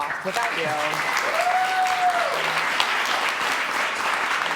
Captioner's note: audience clapping